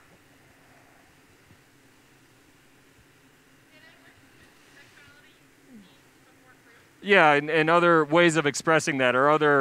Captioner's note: silence